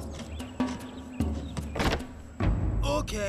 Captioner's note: door opens